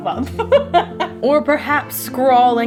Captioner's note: laughing